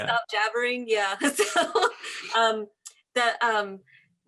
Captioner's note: laughs